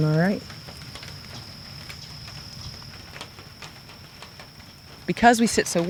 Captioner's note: crickets chirping; rain pattering